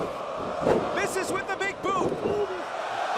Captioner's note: crowd cheering